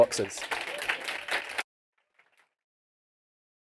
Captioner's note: applause